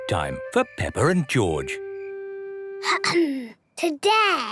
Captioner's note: clears throat